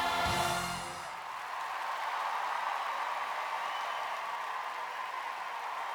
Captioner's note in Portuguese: audience cheering and applauding